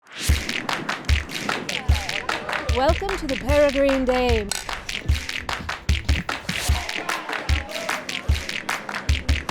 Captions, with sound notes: (lively music) - Welcome to "The Peregrine Dame". (glasses clinking) (lively music continues)